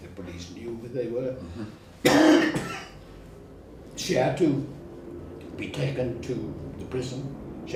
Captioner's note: cough